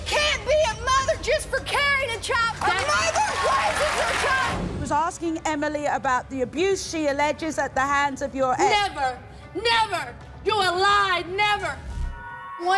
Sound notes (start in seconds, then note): 2.6 audience cheers